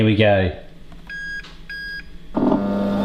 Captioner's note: air fryer beeping; air fryer humming